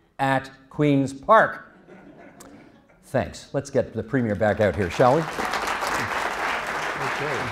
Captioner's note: applause